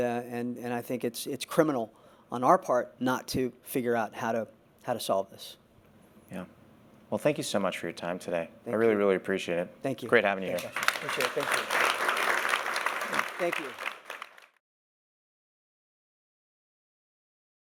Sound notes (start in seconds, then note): 10.5 applause